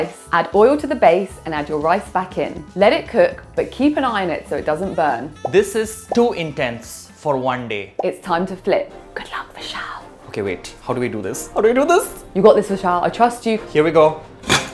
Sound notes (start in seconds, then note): 9.6 whispers; 14.4 pot and pan clang